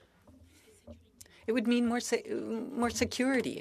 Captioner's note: speaking French